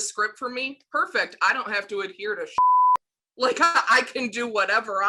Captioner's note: beep